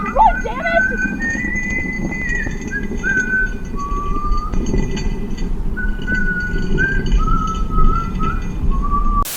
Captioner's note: melodious whistling as an axe is dragged over the floor tiles